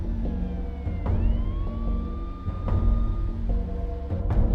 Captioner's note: sirens wailing